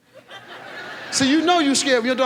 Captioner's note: audience laughs